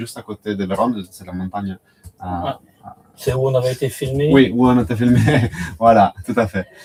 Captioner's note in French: rires